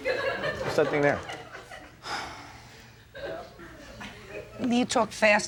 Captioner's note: audience laughing